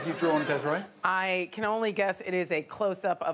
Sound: audience laughing

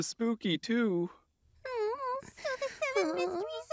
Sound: whimpers, sighs

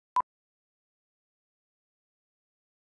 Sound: beep

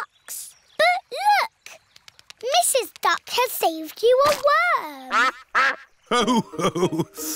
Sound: quacks

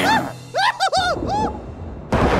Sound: ghost screams; Burt snarls

